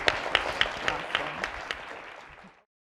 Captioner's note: audience applauding